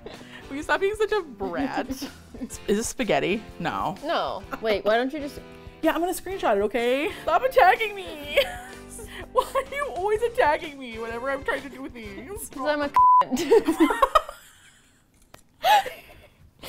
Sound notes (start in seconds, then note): 1.3 laughs; 6.6 playfully defensive; 8.1 laughs; 9.2 playfully defensive; 13.3 both laugh